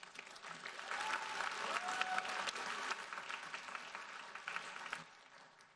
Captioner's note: audience cheering and applauding